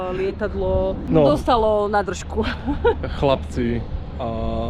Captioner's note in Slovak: smiech